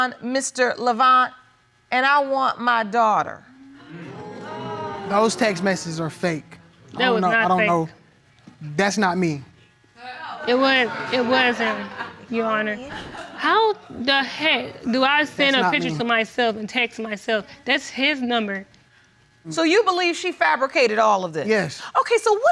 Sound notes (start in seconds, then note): 3.7 audience groaning; 10.6 audience laughing